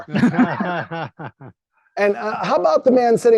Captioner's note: laughing